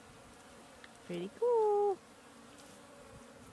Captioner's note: bees buzzing